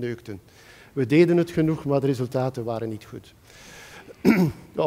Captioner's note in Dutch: schraapt de keel